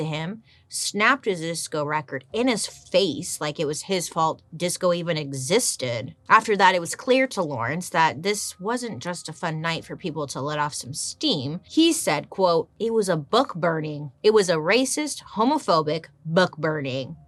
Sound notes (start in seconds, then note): none